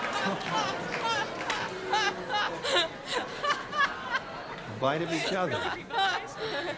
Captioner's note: laughter